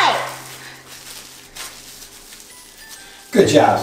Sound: plastic crackling

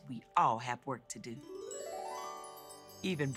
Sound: chimes

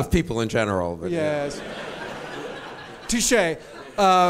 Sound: audience laughs

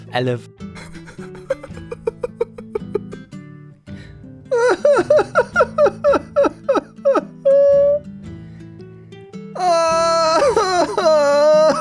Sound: yammer/whining

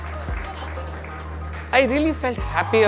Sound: applause

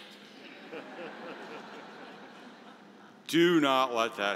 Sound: audience laughs

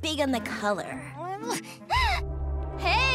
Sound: gasps

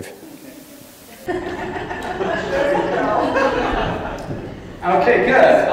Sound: laugh

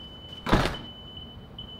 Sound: alarm beeps; door shuts

